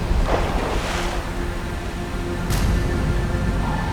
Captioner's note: splashing